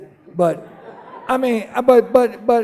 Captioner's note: laughing